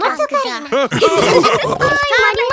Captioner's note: laughing; snorts